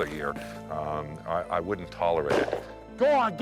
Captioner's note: gun blasting